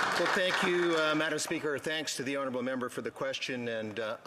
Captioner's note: some Applause